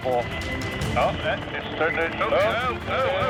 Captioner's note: men shouting